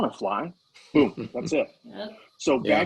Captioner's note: laughing